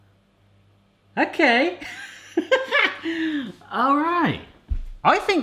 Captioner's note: laughs